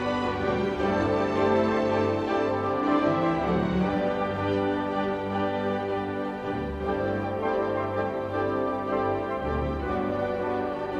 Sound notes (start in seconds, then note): none